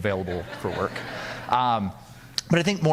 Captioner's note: audience laughing